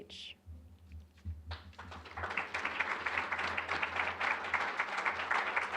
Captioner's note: applause